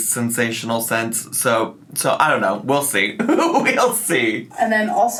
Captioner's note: laughs